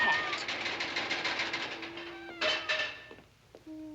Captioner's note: rattling